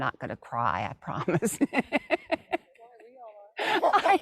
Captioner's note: laughs